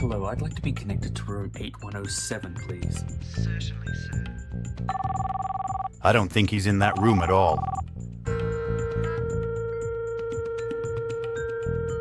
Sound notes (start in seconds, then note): 4.9 phone rings; 6.8 phone beeps